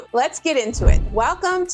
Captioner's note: whooshing